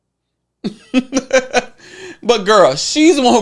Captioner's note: laughs